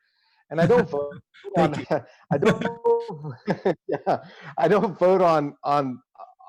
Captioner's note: laughter